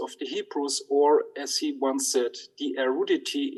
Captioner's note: speaks in Hebrew